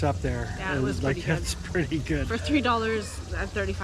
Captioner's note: laughs